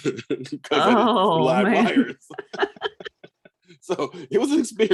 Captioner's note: laughs